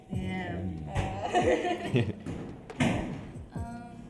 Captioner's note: laughter